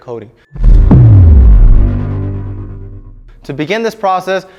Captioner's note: logo reverberating